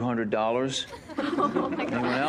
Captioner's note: laughter